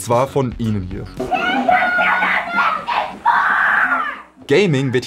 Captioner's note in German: Aufgeregte Rufe